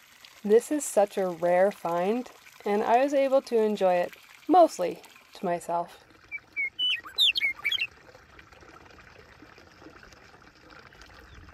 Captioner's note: birds chirping